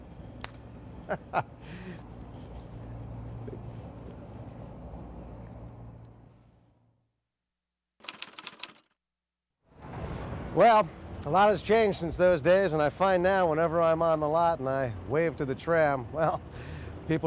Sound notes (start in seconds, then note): 0.1 hand slapping; 1.0 Jason chuckling; 8.0 typewriter clacking